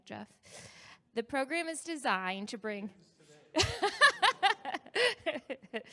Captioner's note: laughs